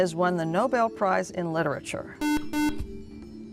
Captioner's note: buzzer